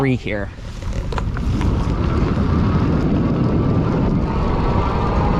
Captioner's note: bike whirring